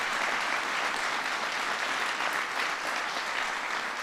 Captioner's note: applause